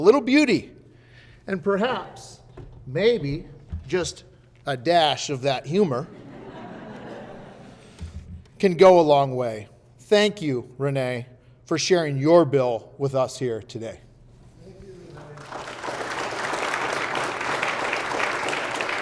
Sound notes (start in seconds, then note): 6.0 audience laughing; 15.2 audience applauding